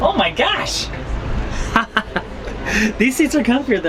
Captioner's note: laughs